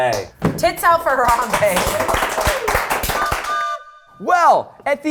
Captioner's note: all clapping